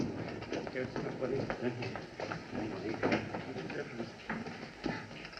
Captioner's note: muttering